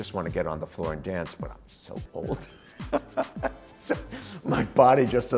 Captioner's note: laughing